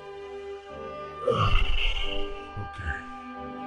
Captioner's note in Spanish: Suspiro